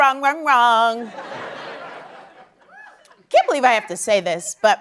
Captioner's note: laughter